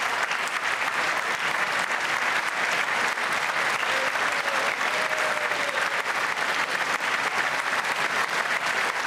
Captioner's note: applause